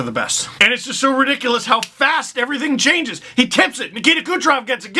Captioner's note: snap